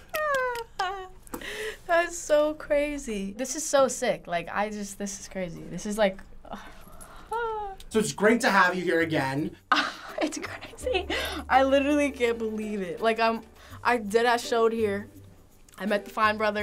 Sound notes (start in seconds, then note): 6.5 sighing; 9.8 laughing